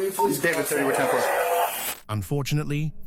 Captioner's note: radio chatter